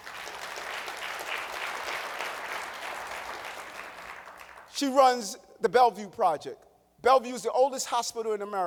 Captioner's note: applause